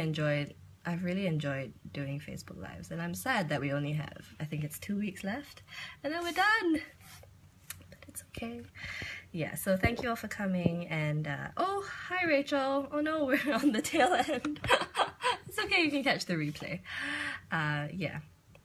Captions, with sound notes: I've really enjoyed doing Facebook lives and I'm sad that we only have, I think, it's two weeks left and then we're done! But it's okay. So thank you all for coming and, oh, hi Rachel! Oh no! We're on the tail end! (laughs) It's okay you can catch the replay.